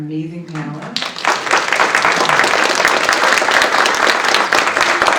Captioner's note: audience applauds